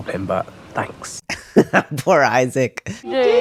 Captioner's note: laugh